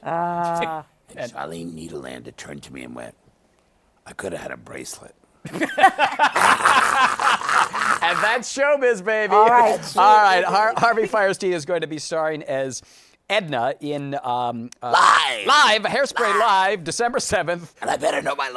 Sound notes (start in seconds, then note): 5.4 laughter